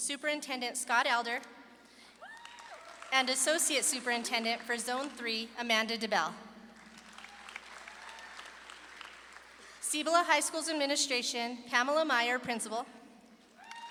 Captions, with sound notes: Superintendent Scott Elder and Associate Superintendent for Zone 3, Amanda DeBell. (audience claps and cheers) Cibola High School's Administration, Pamela Meyer, Principal,